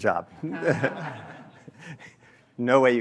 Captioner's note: laughter